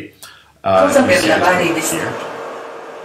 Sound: speaking non-english

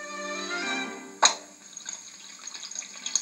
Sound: bottle Pops

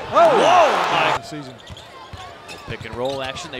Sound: crowd cheering

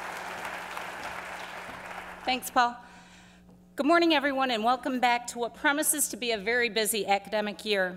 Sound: applause

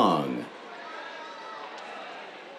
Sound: cheers

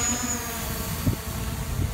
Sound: drone buzzing

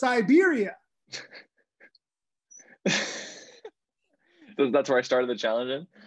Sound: laughing lightly

